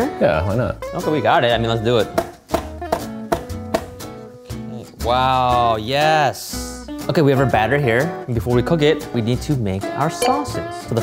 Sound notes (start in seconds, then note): 2.8 knife chopping